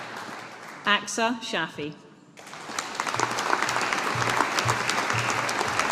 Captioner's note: audience applauding